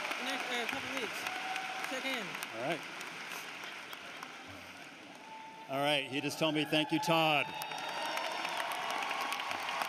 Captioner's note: cheering and applause